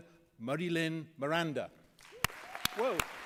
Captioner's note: applause